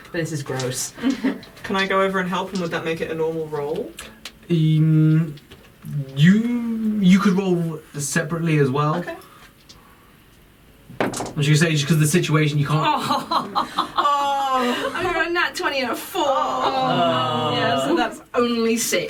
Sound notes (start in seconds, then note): 13.3 Nyx and Isa groan; 16.5 everyone groans